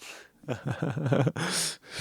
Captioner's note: laughs